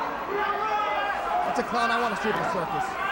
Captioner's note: crowd chatter